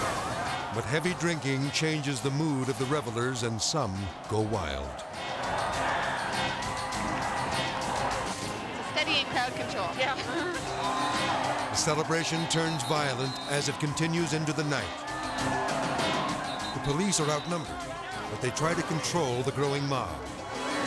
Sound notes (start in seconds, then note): 5.2 people clamoring; 14.8 whistle whistling; 20.1 people clamoring; 20.1 whistle whistling